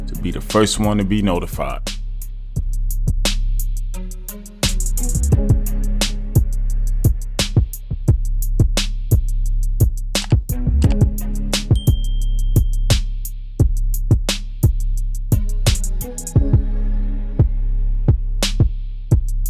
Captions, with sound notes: to be the first one to be notified. (upbeat music) (keyboard clacking) (bell dinging) (upbeat music)